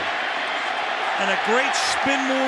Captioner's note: cheering